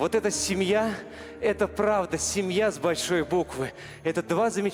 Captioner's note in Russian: none